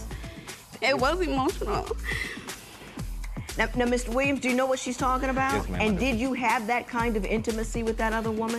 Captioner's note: voice breaking